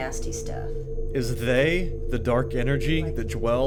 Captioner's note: voiceover